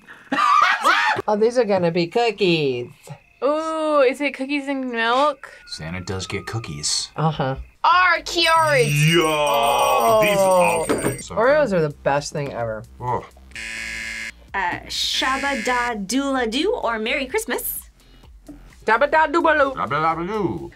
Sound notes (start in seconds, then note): 0.0 laughs; 13.5 buzzer; 14.9 speaks Simlish